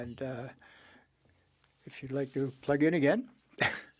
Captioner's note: speaking French